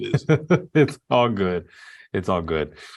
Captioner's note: laughs